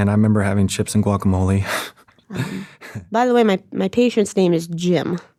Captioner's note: laughs